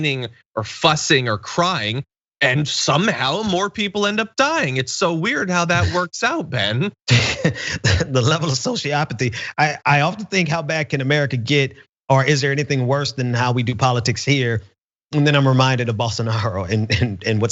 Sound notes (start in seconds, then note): 7.0 laugh; 16.7 laugh